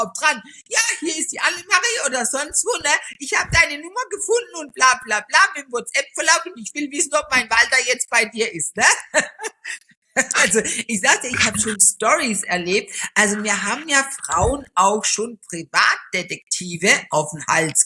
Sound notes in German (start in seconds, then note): 9.9 gelächter